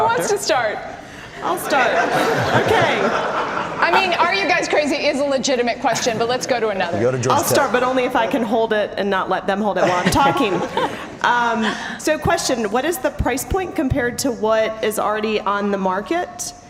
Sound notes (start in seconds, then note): 2.9 audience laughter